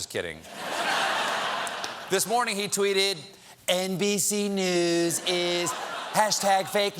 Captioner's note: laughter